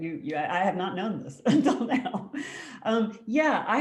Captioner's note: laughs